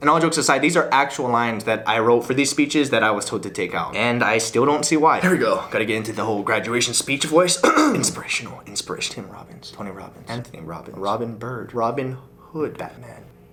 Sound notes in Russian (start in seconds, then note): 7.6 прочищает горло